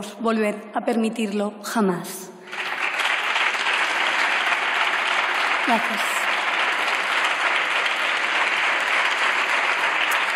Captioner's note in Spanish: Aplausos